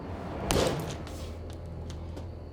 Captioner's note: smashes watch